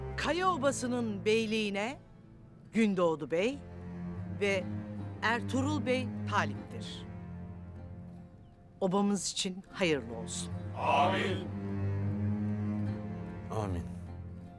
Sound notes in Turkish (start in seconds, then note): 10.7 Hep bir ağızdan